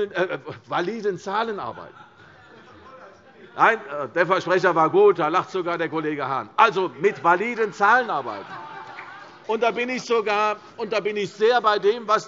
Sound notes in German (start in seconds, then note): 6.9 Allgemeine Heiterkeit